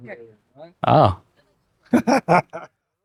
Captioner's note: laughs